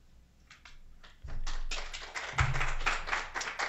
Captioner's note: applause